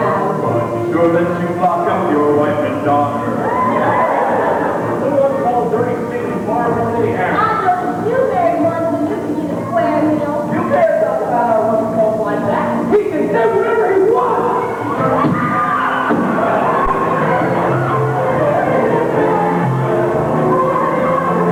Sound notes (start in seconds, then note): 3.3 whooping; 14.9 fighting, screaming, music